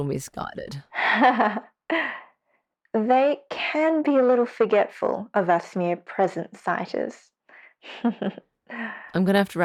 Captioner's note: laughs; chuckles slightly